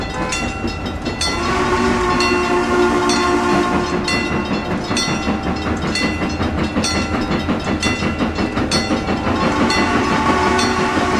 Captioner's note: CNJ Blue Comet Pacific whistle, chuffing, wig wag ringing